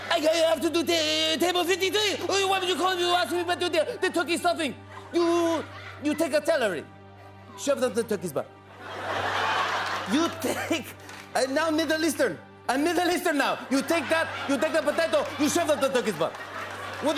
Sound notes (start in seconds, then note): 5.0 middle Eastern accent; 8.7 laughter